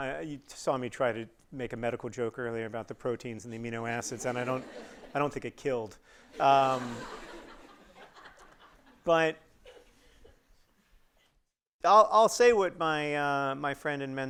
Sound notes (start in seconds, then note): 6.3 audience laughing